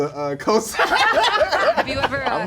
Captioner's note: laughter